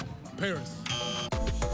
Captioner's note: buzzer